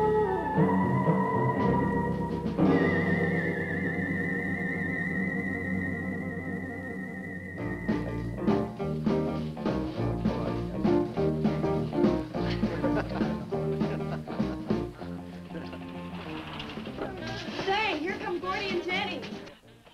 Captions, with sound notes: (upbeat music) (boy laughing) - Say, here come Gordy and Jenny.